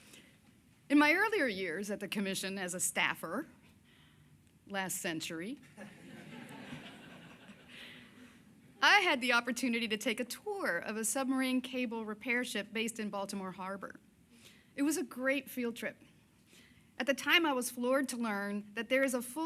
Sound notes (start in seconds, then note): 7.5 laughter